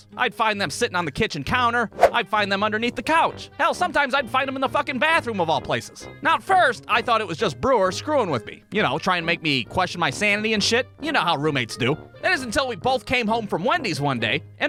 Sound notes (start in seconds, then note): none